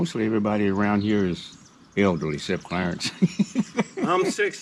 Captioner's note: laughing